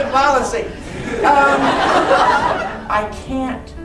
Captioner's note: crowd laughing